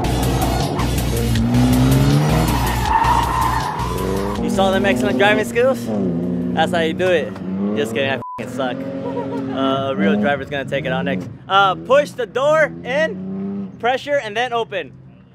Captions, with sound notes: (tires screeching) You saw them excellent driving skills? That's how you do it. This guy, I f****** suck. (woman laughing) A real driver's gonna take it out next. Uh, push the door in, pressure and then open.